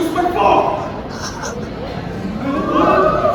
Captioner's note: dies laughing